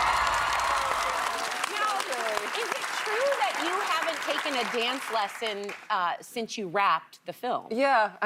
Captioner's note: cheers and applause